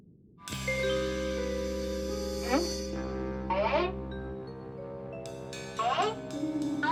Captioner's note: suspenseful music; squeaking